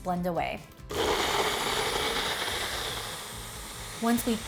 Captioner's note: blender whirring